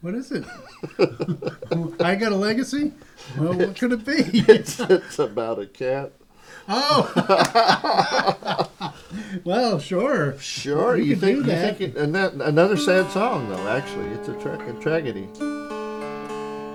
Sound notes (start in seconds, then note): 0.4 laughter; 6.6 laughter; 16.5 dulcimer tuning